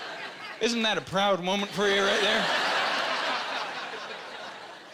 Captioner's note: laughing